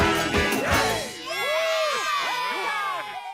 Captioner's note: cheering